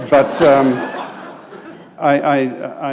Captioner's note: laughter